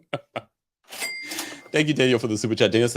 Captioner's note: chuckles; cash register ringing sound effect